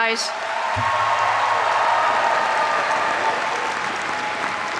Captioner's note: graduates applaud